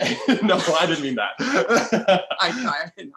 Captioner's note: laughing; laughs